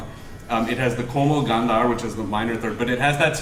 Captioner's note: hindi